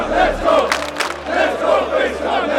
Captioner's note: crowd clapping